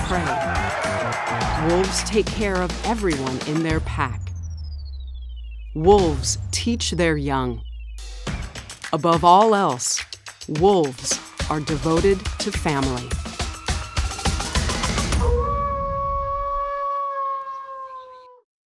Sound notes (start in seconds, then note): 0.0 crowd cheering; 13.0 upbeat music; 15.2 wolf howling